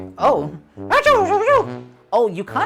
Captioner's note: speaking elvish